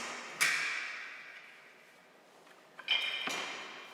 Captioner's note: rattling, jingling